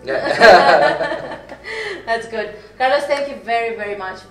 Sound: both laughing

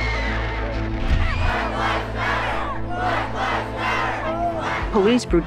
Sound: chanting

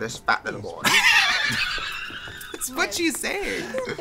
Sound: laughs

